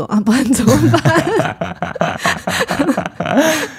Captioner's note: laughs